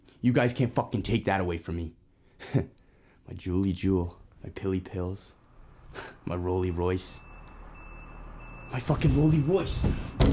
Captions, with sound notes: You guys can't fucking take that away from me. My juuly Juul, my pilly pills, -my rolly royce… -[tow truck beeping] My fucking rolly royce!